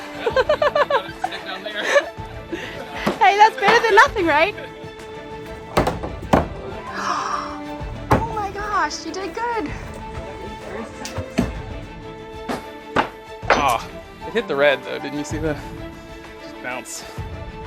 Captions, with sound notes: (Laughs) Hey, that's better than nothing, right? (Gasp) Oh my gosh! You did good! Aw. It hit the red, though. Didn't you see that? It bounced.